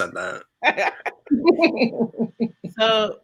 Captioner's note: laughing